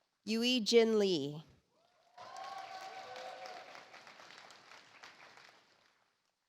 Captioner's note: audience applauds